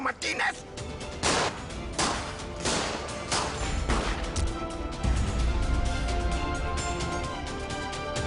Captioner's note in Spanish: Disparos